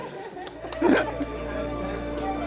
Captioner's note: laughter